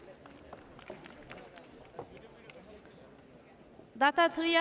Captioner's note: audience applauds